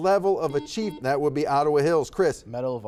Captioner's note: buzzer buzzes